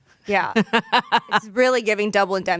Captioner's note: laughs